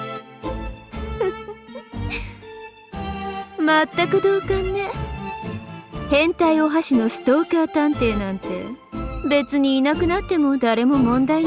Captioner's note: giggle